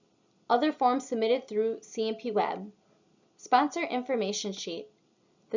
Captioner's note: click